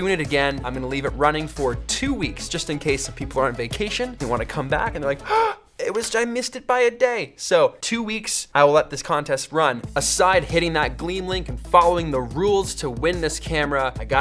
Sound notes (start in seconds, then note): 5.2 surprised gasp